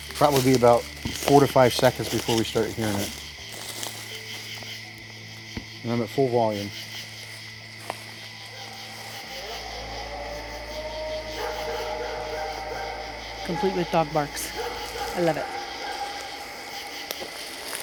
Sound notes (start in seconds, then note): 4.2 insects chirping; 11.0 animal howling